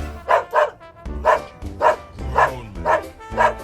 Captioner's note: dog barks